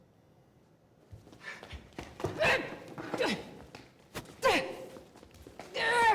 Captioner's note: groaning